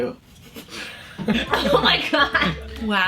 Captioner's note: group laughs